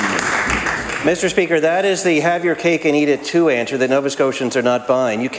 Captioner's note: applause